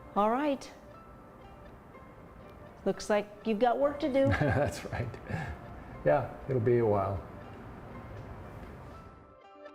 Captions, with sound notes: - Alright. Looks like you've got work to do. - (laughing) That's right. Yeah, it'll be a while.